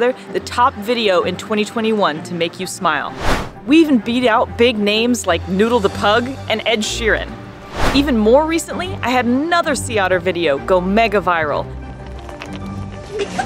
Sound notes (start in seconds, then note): 3.0 whooshing sound effect; 7.6 whooshing sound effect; 12.0 ice cubes banging together; 13.0 laughing